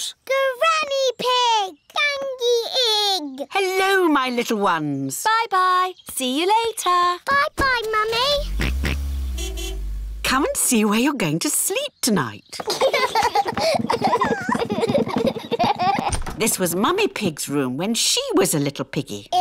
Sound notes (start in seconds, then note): 8.3 george oinks; 8.3 car horn honks; 12.6 children laugh